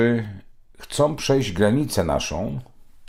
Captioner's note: Polish